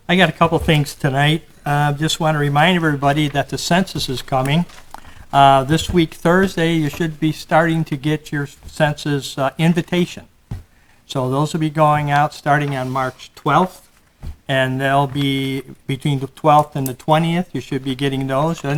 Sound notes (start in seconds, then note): none